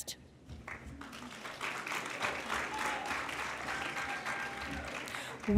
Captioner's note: applause